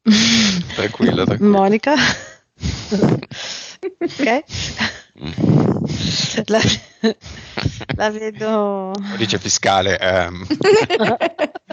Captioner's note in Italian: Risate